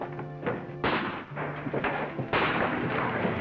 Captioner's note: gunfire